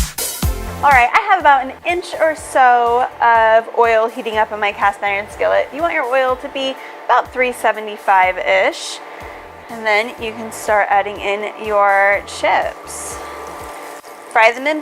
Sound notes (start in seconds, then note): 13.2 oil sizzles